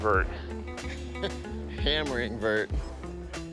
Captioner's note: chuckling